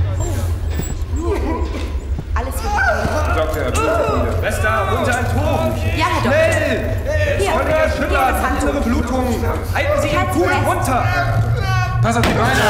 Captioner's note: surgeon and doctor talking as patient cries out